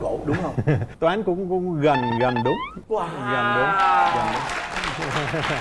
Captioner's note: applause